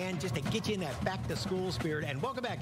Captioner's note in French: applause